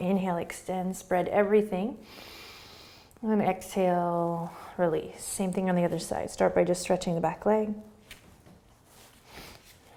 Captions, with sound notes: Inhale, extend. Spread everything. (inhaling) And then exhale, release. Same thing on the other side. Start by just stretching the back leg.